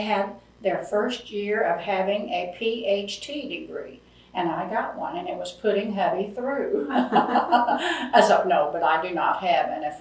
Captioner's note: laughs